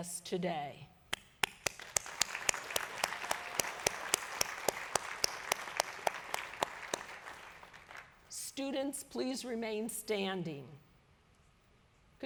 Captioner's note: applause